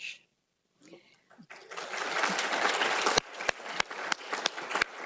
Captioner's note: applause